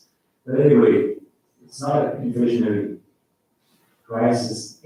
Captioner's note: faintly speaking